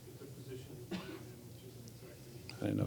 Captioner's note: person coughs